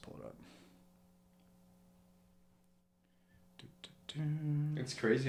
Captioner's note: humming